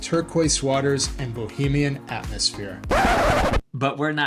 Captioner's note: record scratch